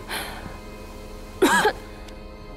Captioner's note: cough